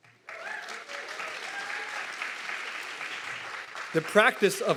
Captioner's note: audience clapping and cheering